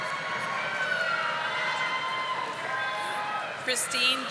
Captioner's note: audience applauding